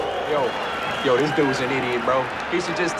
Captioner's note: crowd groans, whistles